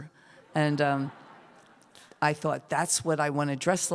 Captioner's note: laughter